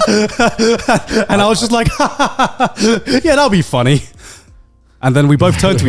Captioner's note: chuckles